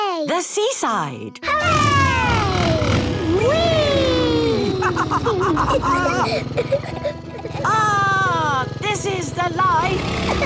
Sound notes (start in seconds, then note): 5.2 laughs